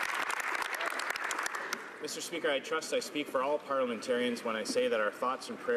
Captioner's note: some Applause